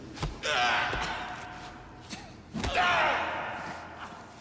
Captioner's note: man screaming in pain